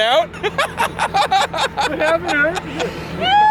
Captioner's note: laughing